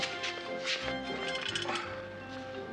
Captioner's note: metallic rattling